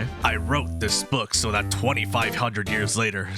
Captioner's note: none